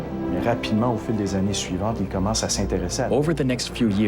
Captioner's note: speaking in foreign language